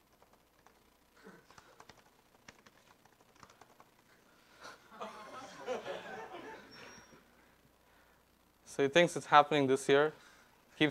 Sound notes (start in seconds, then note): 4.9 audience laughing